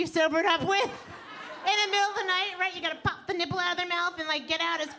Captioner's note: audience laughing